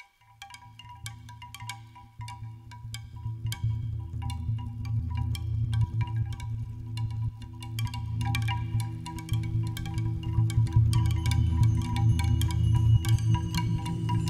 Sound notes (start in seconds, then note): 0.0 wind chime sound